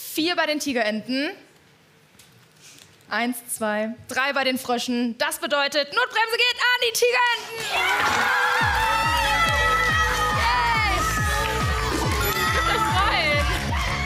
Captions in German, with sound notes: Vier bei den Tigerenten. Eins, zwei, drei bei den Fröschen. Das bedeutet, Notbremse geht an die Tigerenten. (Jubel) Yes! Ihr könnt euch freuen.